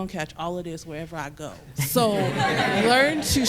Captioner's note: laughter